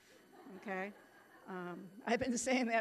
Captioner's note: audience laughing